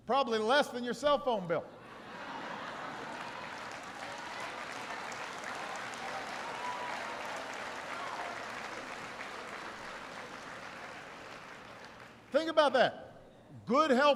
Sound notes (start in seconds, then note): 4.2 laughter and applause